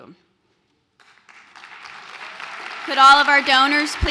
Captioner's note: applause